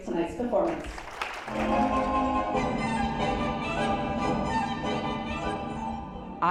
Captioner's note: applause; whimsical music